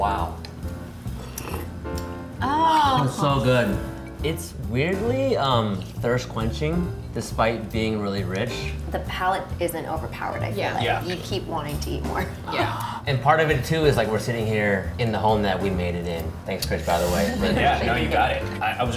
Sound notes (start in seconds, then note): 0.0 easy jazz music; 1.1 slurping